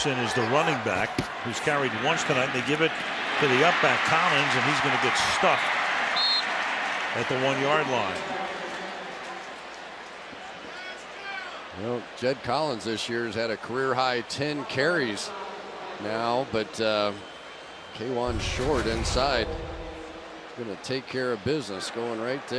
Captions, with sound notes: Robinson is the running back, who's carried once tonight. And they give it to the upback, Collins. And he's going to get stuffed-- [whistle blows] --at the 1-yard line. Jed Collins this year has had a career high 10 carries now. But Kawann Short, inside, gonna take care of business.